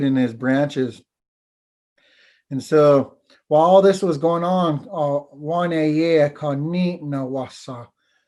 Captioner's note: foreign language